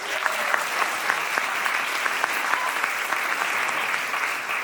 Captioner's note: audience applauding